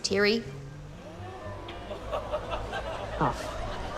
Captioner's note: fan whirrs softly, audience titters